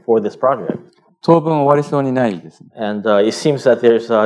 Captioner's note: speaking japanese